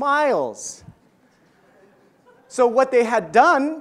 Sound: audience laughs

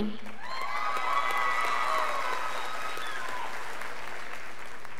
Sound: scholars applauding

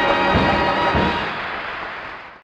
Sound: audience applauding

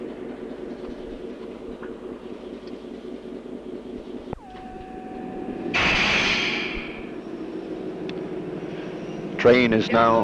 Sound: sound of the train idling

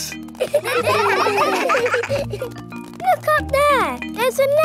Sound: children laughing

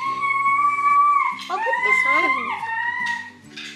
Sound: screeming

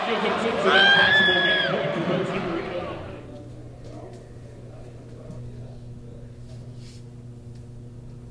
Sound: cheer

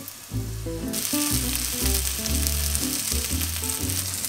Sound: sizzle

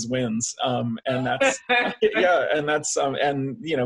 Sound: laughing

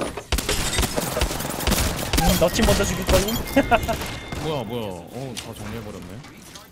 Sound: laughs

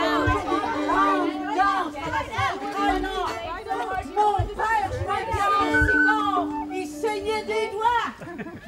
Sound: River Chorus: overlapping voices

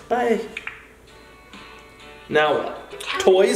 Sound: popping sound

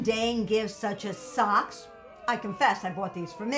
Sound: group booig

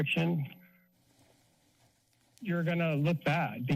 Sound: pause

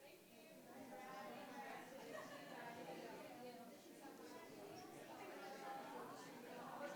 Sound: audience and board members chatting indistinctly continues

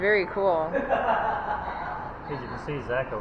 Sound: laughter

